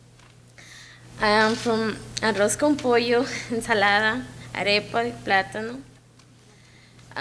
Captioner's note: speaks in a foreign language